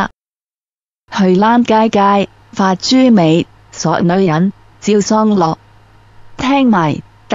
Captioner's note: Cantonese with Tai Shan accent